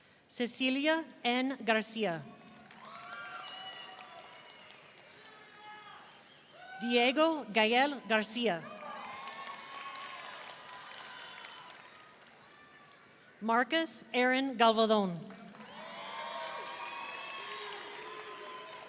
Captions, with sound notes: Cecillia N. Garcia. (audience cheering) Diego Gael Garcia. (audience cheering) Marques Aaron Gavaldon. (audience cheering)